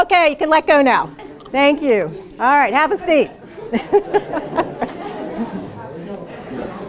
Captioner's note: laughter